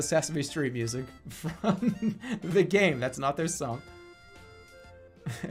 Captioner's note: giggling; giggling